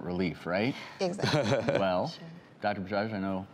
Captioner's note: laughs